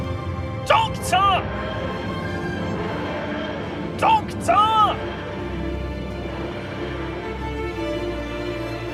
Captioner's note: whooshing